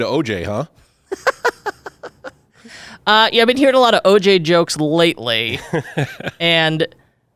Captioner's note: laughs